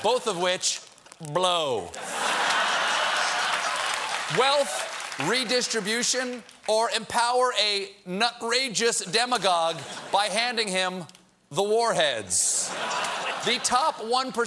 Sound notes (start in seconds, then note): 2.0 laughter